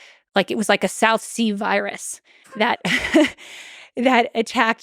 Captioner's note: chuckles